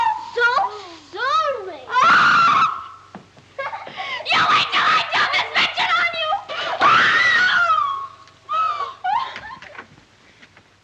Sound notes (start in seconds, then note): 1.9 screams; 3.6 giggling; 6.7 screams. sobs